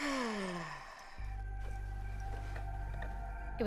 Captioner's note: Rachel sighs